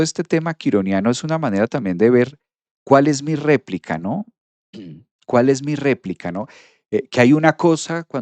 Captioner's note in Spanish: carraspeo